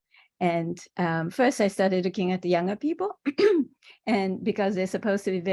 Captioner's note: cough